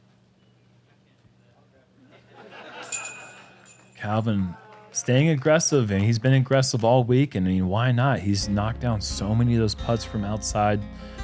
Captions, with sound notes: [laughter] Calvin staying aggressive and he's been aggressive all week. Why not? He's knocked down so many of those putts from outside,